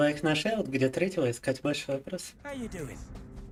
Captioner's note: speaking in Russian